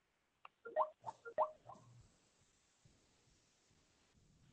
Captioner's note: phone ringing